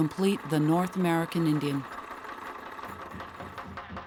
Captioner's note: camera rattling